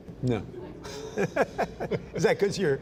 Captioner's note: laughter